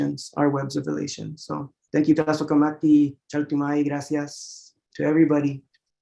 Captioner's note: non-english speech